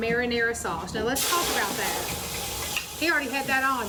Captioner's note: sauce sizzles